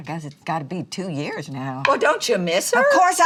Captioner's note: none